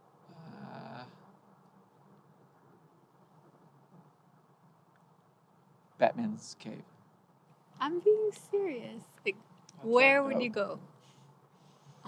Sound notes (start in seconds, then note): 2.0 outside ambient with cars passing in the distance